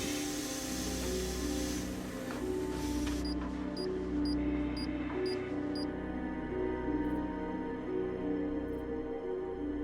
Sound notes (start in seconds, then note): 3.2 machine beeps